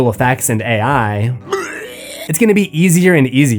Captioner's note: barf